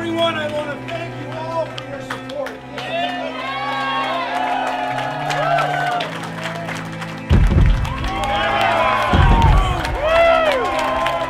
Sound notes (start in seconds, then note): 7.3 booming